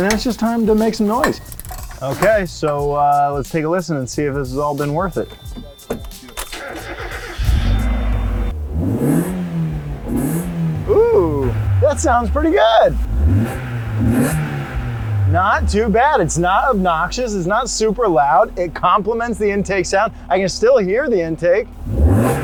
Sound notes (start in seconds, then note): 8.1 car engine revving; 13.5 car engine revving; 22.1 engine revving